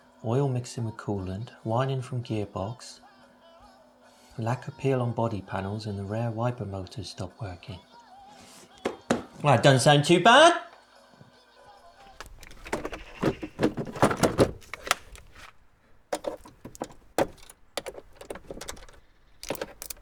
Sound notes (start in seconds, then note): 8.8 knocks on wood